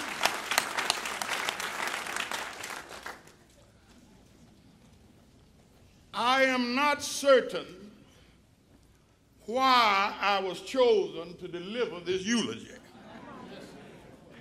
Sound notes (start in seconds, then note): 1.7 applause